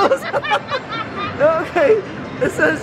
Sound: both laughing

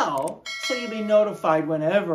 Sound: bell chimes

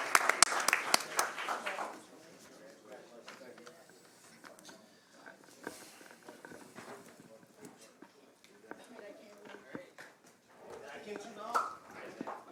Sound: applause

